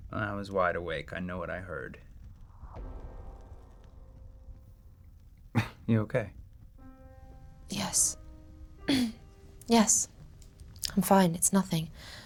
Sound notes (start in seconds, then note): 6.1 scoffs